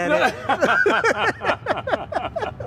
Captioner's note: laughing